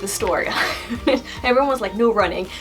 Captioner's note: laugh